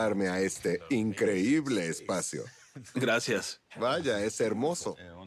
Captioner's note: chuckles